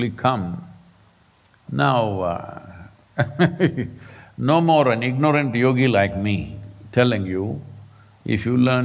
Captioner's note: laughs